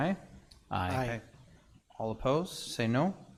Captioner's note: in Unison